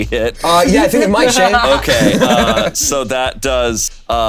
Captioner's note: players chuckling